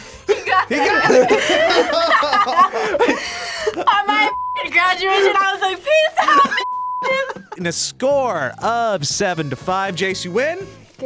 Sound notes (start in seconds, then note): 0.2 both laugh